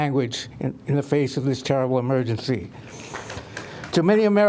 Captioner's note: applause